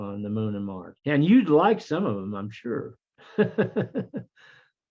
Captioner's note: laughs